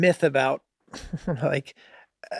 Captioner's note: Charlie laughing amusingly